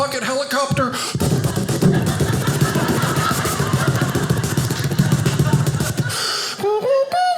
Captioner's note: helicopter chopping; humming theme music